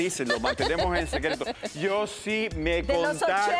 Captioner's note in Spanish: Risas